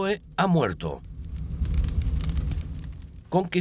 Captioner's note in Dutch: vuur knettert